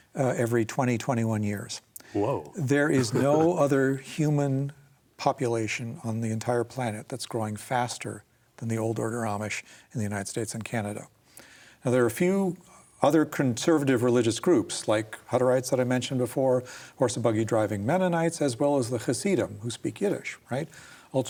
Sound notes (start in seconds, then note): 2.8 laughs